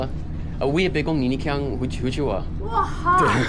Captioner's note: Fuzhounese